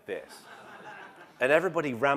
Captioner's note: laugh